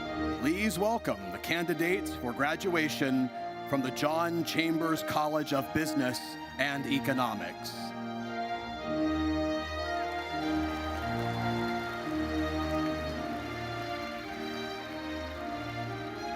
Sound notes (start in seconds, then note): 9.8 audience applauds